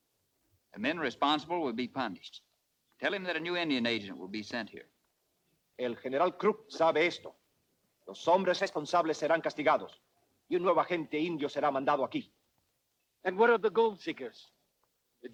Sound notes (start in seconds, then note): 5.9 Ramirez speaks Spanish